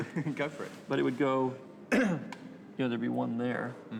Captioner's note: clears Throat